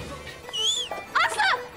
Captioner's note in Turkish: Islık Çalıyor